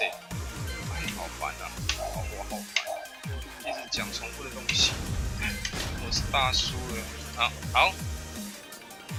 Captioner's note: mumbles